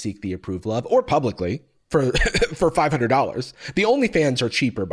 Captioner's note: chuckles